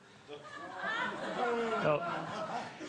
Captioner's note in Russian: Смех в зале